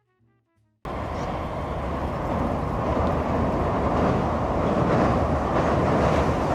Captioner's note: train running